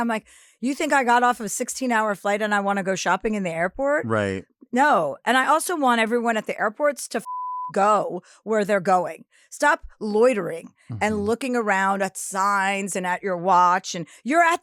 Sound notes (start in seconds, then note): 7.2 beep